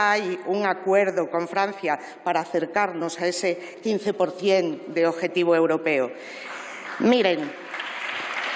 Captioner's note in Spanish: Aplausos